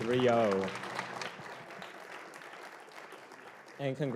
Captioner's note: applause